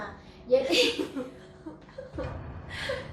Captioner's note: laughing